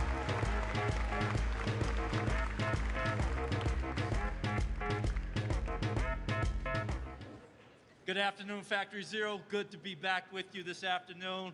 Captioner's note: applause